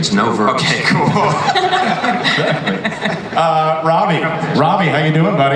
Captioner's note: laughs; panelists laugh